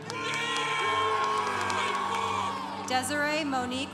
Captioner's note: congregation applauding